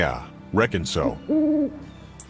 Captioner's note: owl hoots